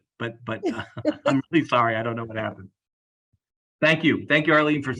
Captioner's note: laugh